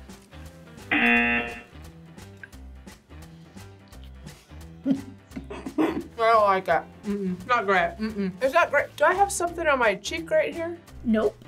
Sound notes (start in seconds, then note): 0.9 buzzer rings; 4.8 laughs